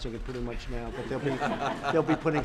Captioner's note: laughter